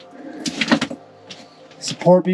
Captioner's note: debris clatters